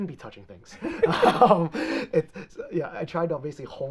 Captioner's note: both laughing